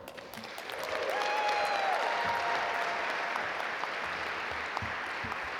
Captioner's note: audience cheer and applaud